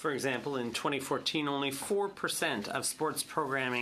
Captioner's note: speaking in French